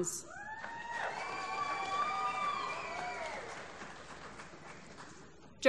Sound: applause

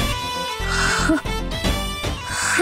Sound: gasping

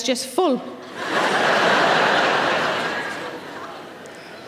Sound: audience laughing

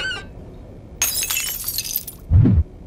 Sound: shattering

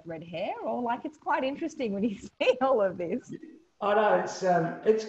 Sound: laughs

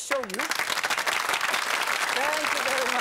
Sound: audience clapping

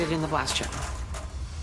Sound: tray rattles

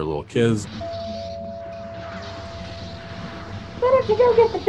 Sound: doorbell rings

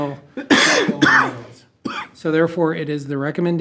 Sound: board member coughing

